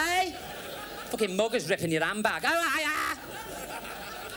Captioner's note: screams